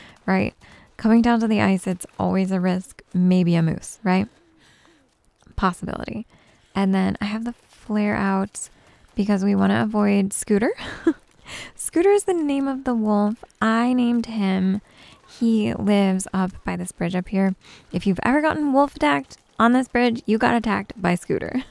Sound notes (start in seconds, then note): 10.8 giggles